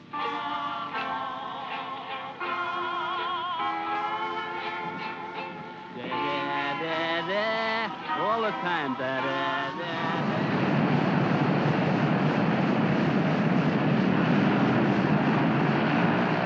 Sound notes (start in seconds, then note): 0.0 hawaiian music plays; 6.0 airman mocks music; 9.0 aircraft rumbles